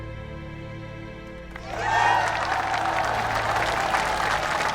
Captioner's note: applause